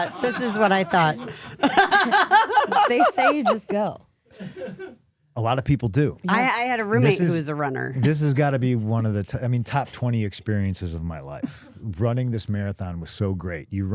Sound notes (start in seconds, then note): 1.7 Stephanie laughing